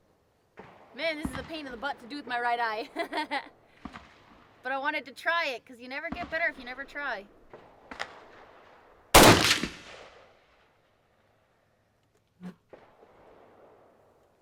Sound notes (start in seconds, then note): 2.8 laughs; 9.1 gun fires